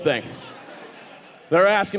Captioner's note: audience laughing